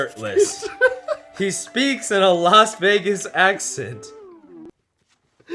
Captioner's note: laughs